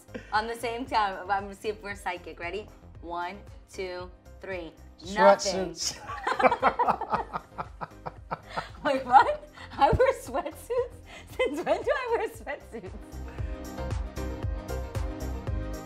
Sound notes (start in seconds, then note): 6.0 laughing; 13.1 upbeat music